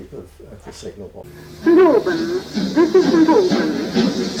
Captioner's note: station announcement